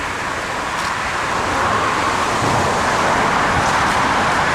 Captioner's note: traffic Noise